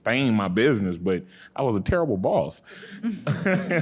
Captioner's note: laughing